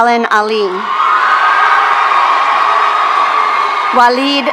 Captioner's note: audience cheering